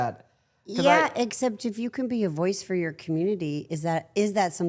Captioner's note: all laughing